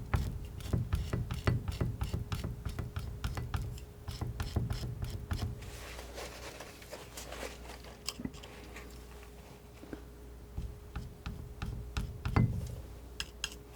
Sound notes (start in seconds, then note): 5.6 scraping